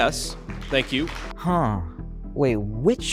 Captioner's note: audience applauding